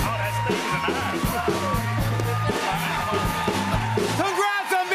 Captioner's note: cheers and applause